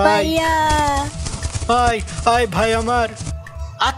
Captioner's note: horses Approaching